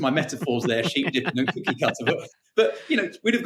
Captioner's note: laughing